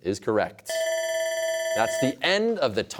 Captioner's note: bell ringing